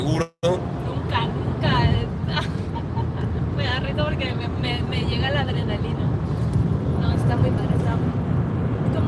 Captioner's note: giggling